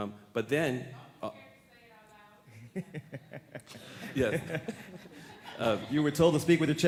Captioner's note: laughter